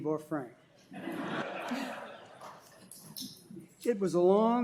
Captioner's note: laughter